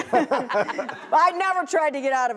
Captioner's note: laughter